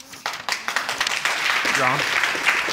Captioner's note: audience applauds